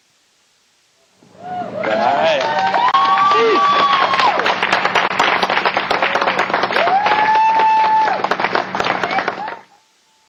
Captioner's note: cheering